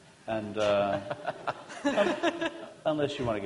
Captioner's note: laughter